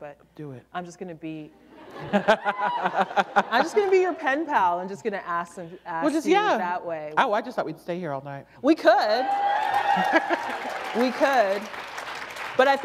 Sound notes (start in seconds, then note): 1.8 laughter; 9.2 applause